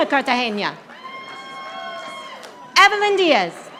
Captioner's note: audience applauding